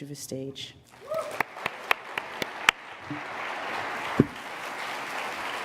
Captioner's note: applause